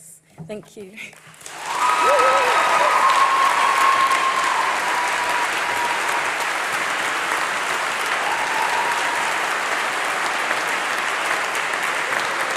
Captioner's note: applause